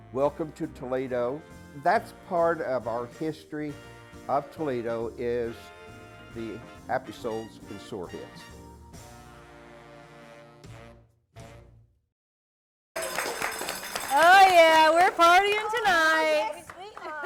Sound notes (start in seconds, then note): 9.6 cheers